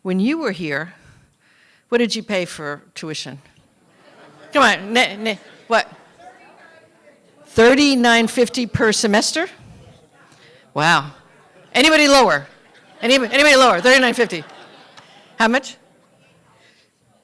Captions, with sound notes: WHEN YOU WERE HERE, WHAT DID YOU PAY FOR TUITION? [LAUGHTER] COME ON, WHAT, 3,950 PER SEMESTER? WOW. ANYBODY LOWER? ANYBODY LOWER THAN 3,950?